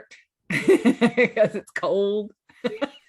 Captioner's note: laughs